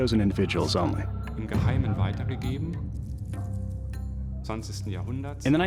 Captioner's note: non-english speech